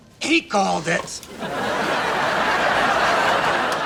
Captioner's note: laughs